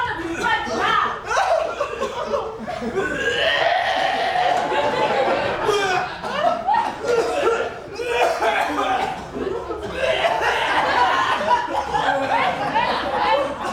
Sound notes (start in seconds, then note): 2.9 men make barfing noise